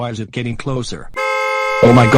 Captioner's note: car horns honking